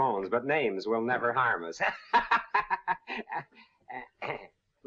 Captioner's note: laughs